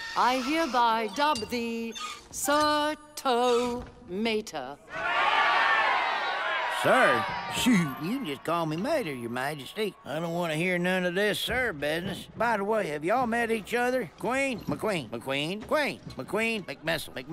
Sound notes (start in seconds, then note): 4.8 cheering